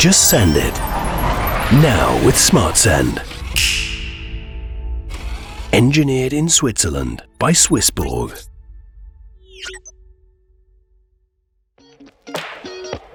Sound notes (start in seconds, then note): 0.0 machine whirring; 1.1 air swooshing; 3.6 finger snapping; 5.0 machine whirring; 9.3 machine pinging